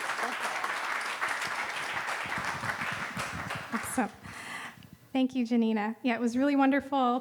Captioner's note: applause